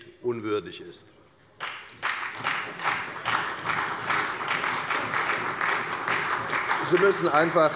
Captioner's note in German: Beifall bei der FDP und der SPD